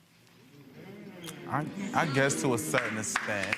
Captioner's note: audience members exclaiming